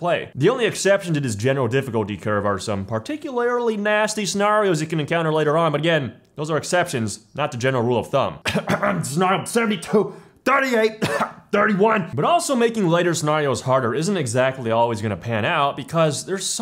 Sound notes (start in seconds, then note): 11.0 ahem